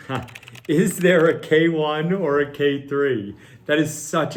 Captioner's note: laughs